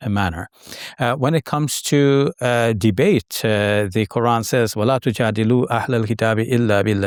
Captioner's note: speaks Arabic